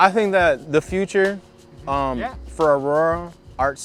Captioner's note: male Voice